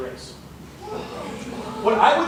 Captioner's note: gasps